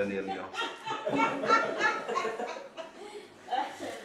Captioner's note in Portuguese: risos